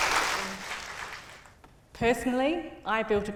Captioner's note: applause